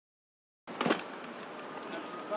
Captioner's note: car door opens